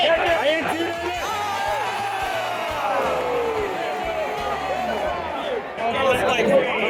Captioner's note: crowd Erupts